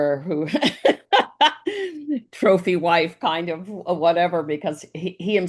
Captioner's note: laughs